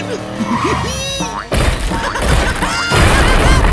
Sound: laughing

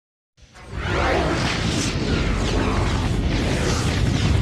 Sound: dramatic twister and helicopter sounds

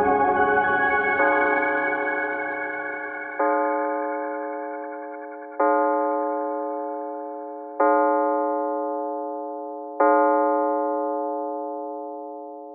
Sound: bell chimes

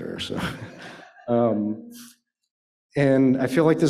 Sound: laughter

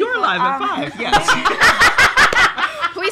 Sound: laughs

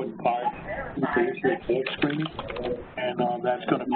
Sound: phone chatter interrupts

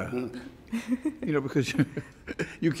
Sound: laughs

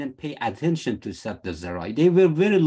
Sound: speaking arabic

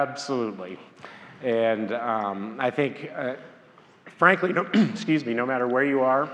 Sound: clears throat

